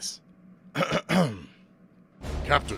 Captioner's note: clears throat; in deep voice